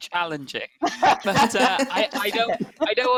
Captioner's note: laughter